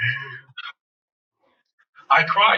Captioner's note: laughs